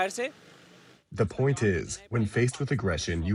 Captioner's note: through translator